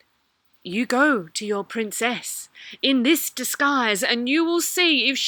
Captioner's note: Bride of the Sea voice